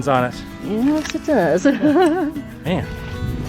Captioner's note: laughter